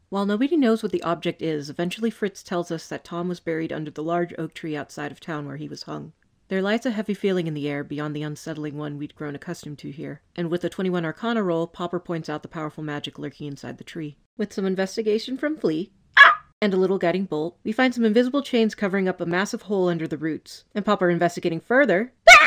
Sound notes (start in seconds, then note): 16.1 dog yelp; 22.2 goblin yelp